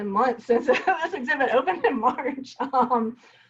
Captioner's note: laughing